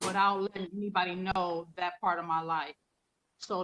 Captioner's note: none